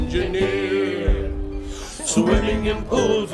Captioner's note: collective deep breath